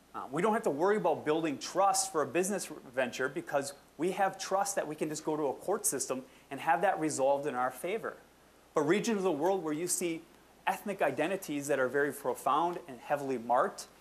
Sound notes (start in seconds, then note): none